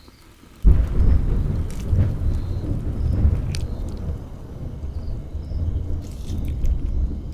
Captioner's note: another thunderstorm begins